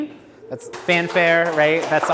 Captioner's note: audience clapping